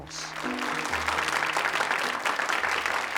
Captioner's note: applause